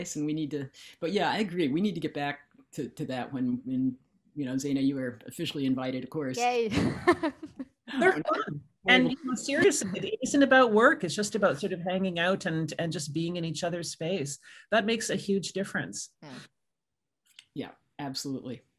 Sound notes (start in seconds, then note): 7.9 laughing